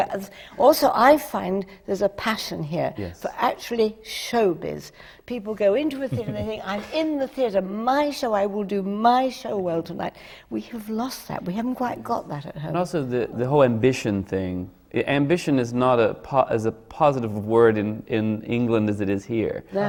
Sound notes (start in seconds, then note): 6.0 laughs